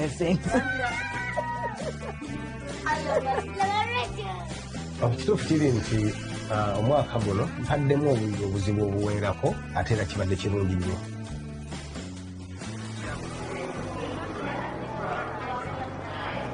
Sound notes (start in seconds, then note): 1.0 children chattering; 13.0 crowd humming